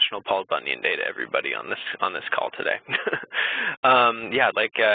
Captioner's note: chuckles